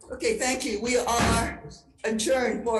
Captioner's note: gavel bangs